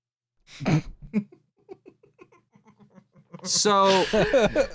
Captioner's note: quiet laughter